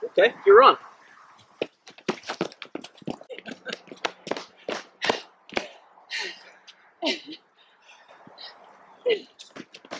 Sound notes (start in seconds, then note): 1.6 footsteps and laughter; 7.0 woman giggles; 9.2 footsteps and laughter